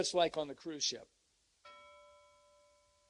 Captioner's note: bell rings